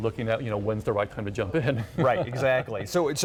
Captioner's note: laughs